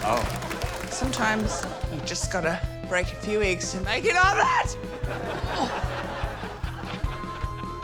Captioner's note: shrieks